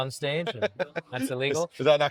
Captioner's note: laughing